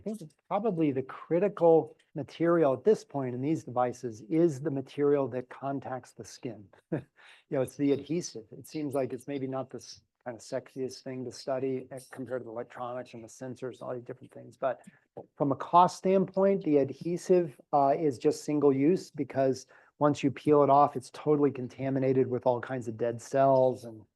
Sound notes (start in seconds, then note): 7.3 laugh